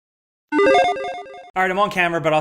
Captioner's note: electronic chimes